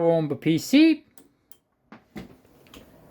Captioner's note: pc power button pressed